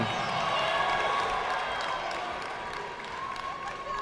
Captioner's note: audience clapping